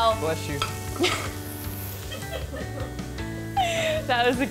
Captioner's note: laughs